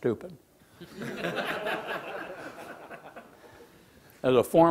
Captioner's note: laughing